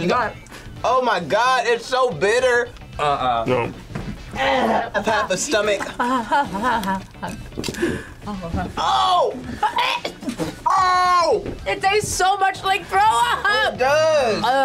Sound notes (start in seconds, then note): 9.0 gags